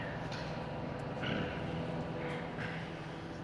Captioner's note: clears Throat